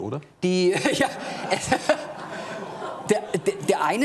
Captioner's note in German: Gelächter